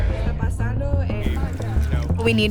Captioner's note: Spanish